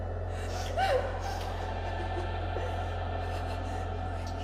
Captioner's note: scary music; girl sobs